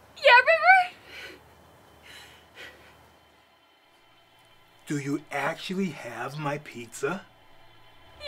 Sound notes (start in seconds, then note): 0.0 Lily gasps; 2.0 Lily heavily breathing